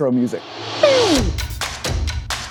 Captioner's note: silly noise; upbeat music